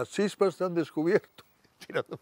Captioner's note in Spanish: Riendo: Tirándome de la oreja